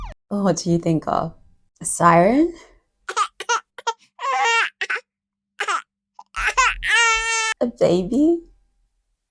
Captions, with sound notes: What do you think of? A siren. [SOUND OF BABY CRYING] A baby.